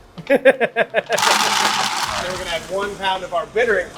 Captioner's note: laughs heartily